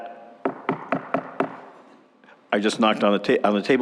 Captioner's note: gavel Pounding